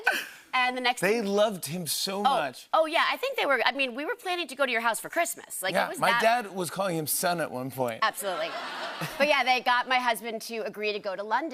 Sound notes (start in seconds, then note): 8.2 laughter